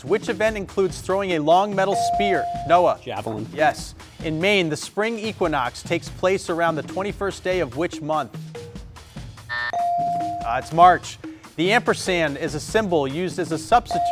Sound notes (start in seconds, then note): 1.9 buzzer chimes; 9.5 buzzer blares